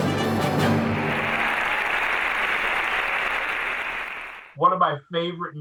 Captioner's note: audience applauding